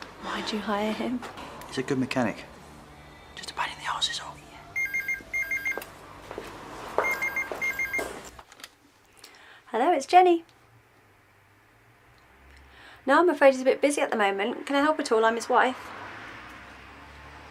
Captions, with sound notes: Why do you hire him? He's a good mechanic (Whispers)He's just a pain in the ass, is all (Phone rings) Hello, it's Jenny No, i'm afraid he's a bit busy at the moment, can i help at all? I'm his wife